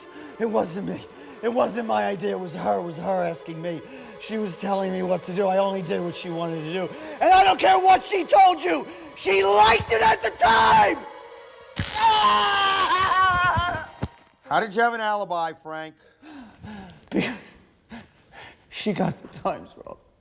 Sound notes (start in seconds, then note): 11.7 screaming